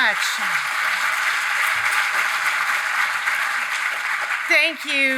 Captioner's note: audience applauds